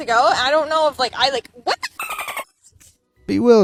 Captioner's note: bird chirping